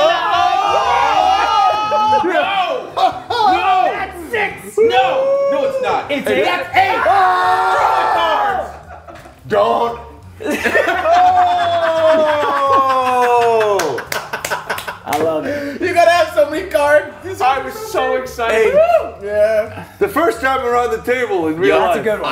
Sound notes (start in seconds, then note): 10.4 laugh